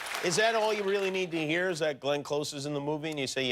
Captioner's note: cheers and applause